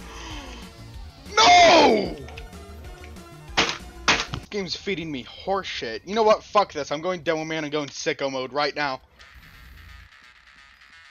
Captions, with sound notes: NO!!!!! [SLAMS DESK IN RAGE] This game is feeding me horse shit... You know what? Fuck this, I'm going Demoman and going sicko mode right now.